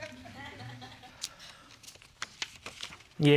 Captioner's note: audience laughs